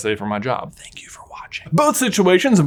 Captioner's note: whispers